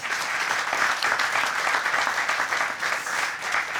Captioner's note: audience applauds